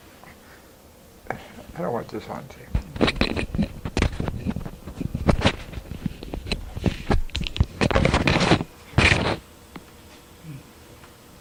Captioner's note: recording stops